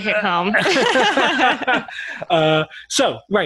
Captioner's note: laughing